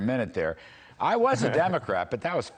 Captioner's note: laughter